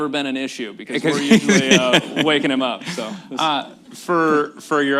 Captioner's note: laughter